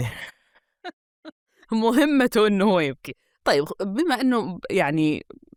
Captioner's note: she laughs